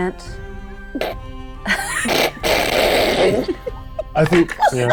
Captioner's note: chuckling